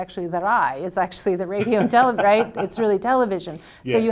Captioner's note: laughs